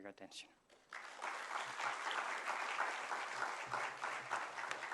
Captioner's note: applause